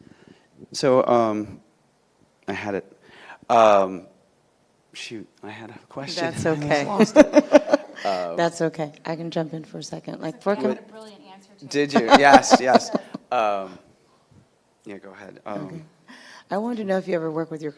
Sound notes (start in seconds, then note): 6.9 chuckles; 11.7 laughing